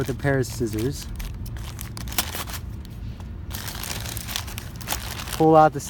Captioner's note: cutting open bag of staples with scissors